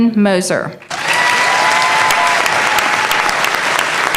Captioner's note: applause